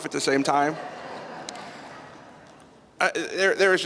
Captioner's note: laughter